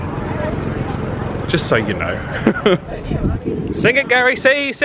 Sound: chuckles

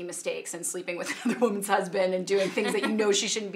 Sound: laughing

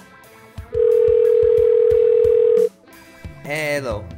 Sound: phone dialing

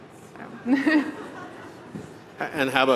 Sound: all chuckling

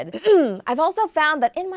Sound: clears throat

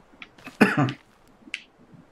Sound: coughs

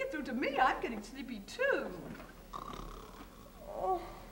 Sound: snoring

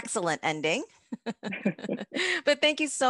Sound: both laughing

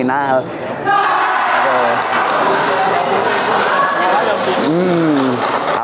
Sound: applause

